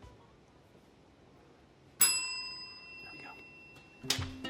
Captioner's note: bell ringing